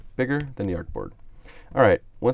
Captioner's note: types on keyboard